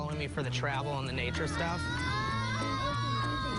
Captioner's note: yelling